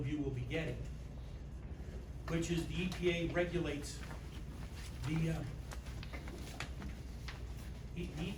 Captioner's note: stammers